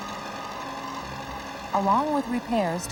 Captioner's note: tractor engine rumbling